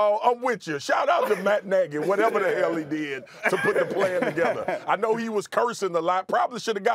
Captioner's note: laughter